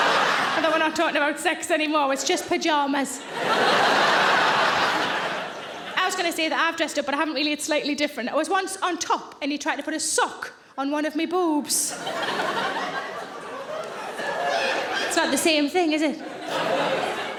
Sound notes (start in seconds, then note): 3.2 audience laughing; 11.9 audience laughing